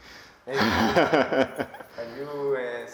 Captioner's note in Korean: 환하게 웃음